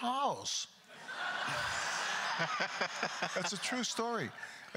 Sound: crowd laughter

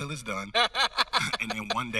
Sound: host laughing

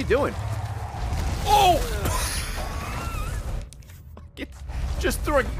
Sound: laughs

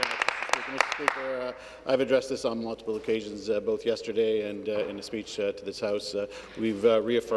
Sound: applause

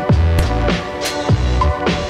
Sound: loud smack

